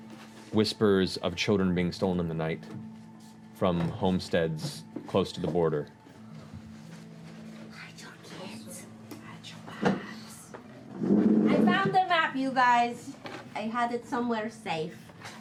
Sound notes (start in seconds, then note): 6.6 whispering